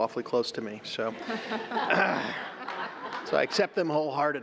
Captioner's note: laughter